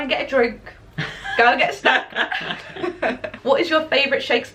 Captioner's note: laughter